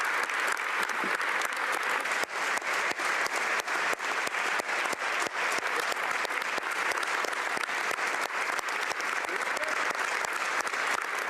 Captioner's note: applause